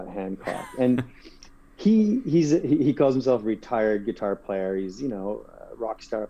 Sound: laugh

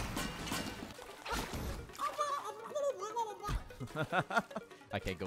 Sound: gurgling noises; laughs

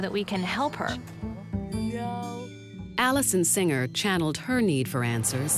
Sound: voiceover

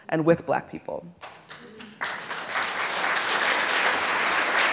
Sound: audience applauds

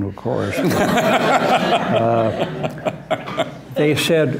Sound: laughter

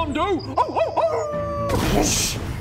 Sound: howls; boosh

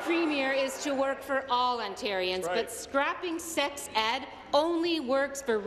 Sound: applause

